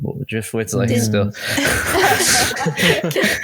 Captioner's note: laughter